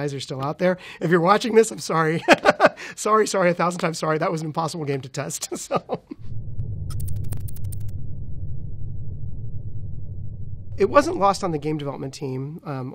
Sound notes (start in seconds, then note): 5.5 laughs; 6.9 electronic typing